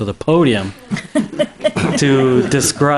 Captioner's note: trustees laughs